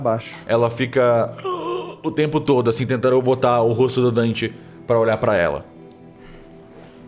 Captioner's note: moaning